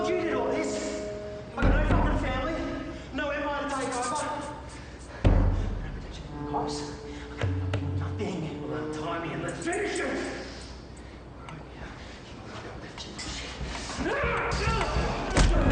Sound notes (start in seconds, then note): 5.6 Alex whispers indistinctly